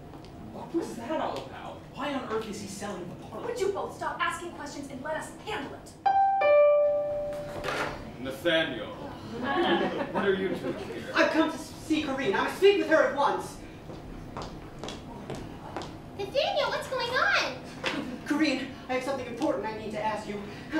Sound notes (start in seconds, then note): 6.1 doorbell; 9.3 laughter